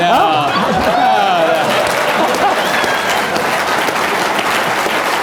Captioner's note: applause